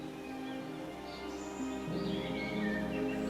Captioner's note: birds chirping